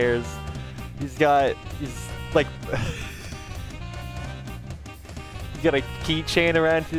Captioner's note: laughing again